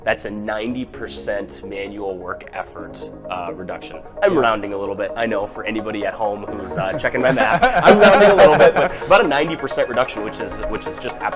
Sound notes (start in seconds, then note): 6.7 laughter